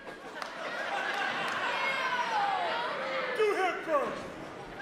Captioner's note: crowd laughs